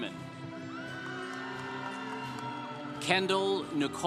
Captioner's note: congregation applauding